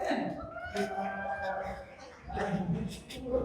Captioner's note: audience chattering